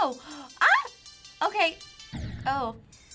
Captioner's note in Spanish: boom